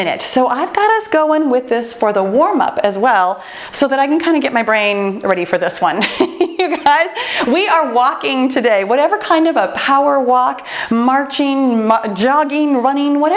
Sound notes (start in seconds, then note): 6.0 laughs